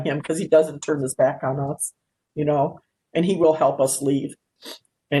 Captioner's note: none